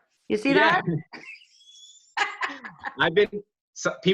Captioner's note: laughs